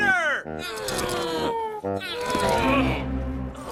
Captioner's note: men grunting